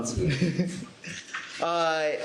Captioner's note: chuckles